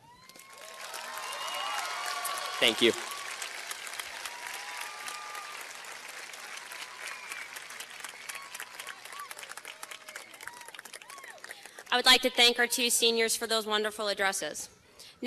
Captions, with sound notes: (cheers and applause) Thank you. (cheers and applause) - I would like to thank our two seniors for those wonderful addresses.